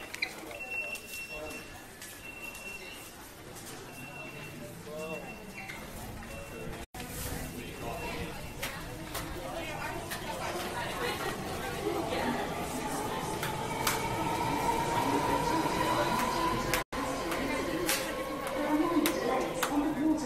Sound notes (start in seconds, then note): 0.1 shoes squeak; 4.4 train whirring; 7.8 people talking; 15.2 female voice announces through speakers